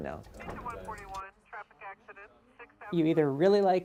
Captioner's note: radio chatter